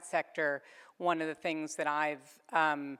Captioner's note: none